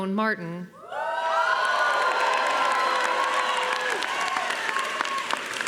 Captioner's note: crowd cheering and applauding